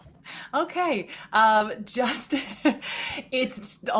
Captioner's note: laughs